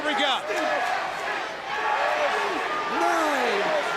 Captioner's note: crowd cheering